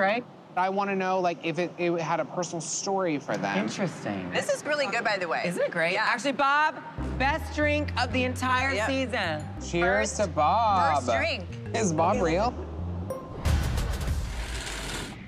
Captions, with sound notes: I want to know if it had a personal story for them. Interesting. This is really good, by the way. - Isn't it great? - Yeah. Actually, Bob? Best drink of the entire season. Yep. Cheers to Bob. First drink. Is Bob real? [ding] [machine whirring]